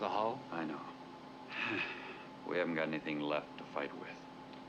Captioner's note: sighs